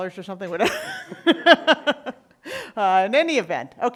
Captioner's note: laughing